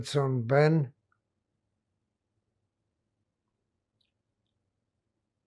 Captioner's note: pauses 6 seconds